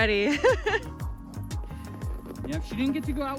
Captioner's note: laughing